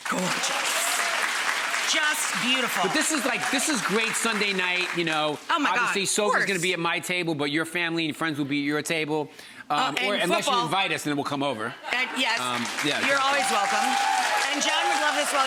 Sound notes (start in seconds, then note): 0.0 audience applauding; 12.3 audience cheering